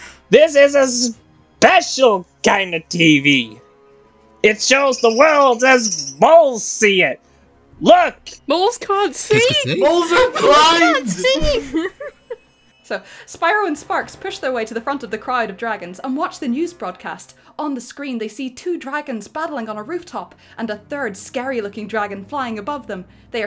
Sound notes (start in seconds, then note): 4.8 birb chirping; 10.8 laughter